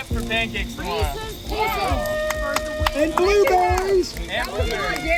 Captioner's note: aplause